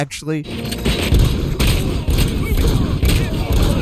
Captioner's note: gun shots